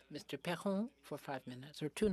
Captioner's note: speaking French